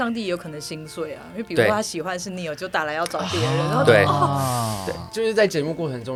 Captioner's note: crying